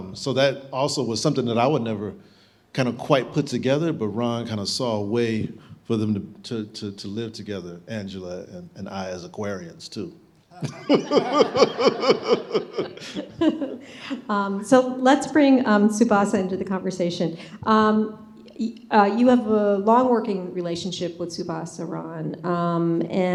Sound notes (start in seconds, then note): 10.5 laughing